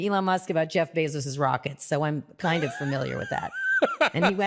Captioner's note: laughs